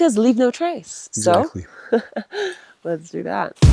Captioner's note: laughs